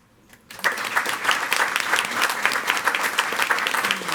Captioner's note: all applauding